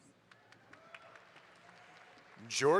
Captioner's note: audience applauds